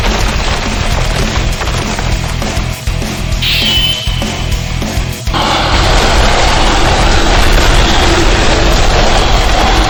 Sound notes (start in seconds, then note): 5.4 creature roaring